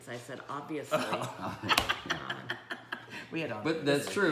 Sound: laughing

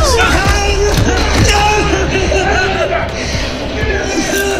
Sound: yelling

